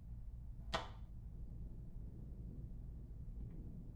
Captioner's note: switch clicks